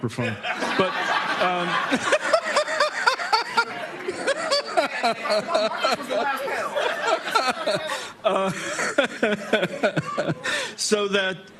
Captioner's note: laughter